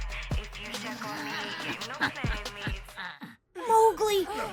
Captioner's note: laughs